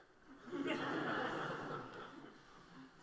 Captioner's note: laughter